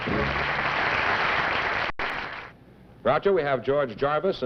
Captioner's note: applause